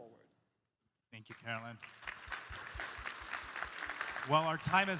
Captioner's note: applause